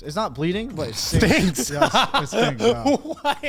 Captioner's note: laughs